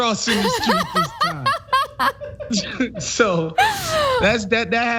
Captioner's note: laugh